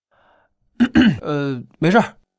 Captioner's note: coughs